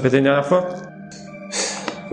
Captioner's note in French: soupir